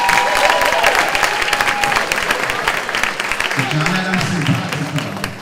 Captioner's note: clapping; cheering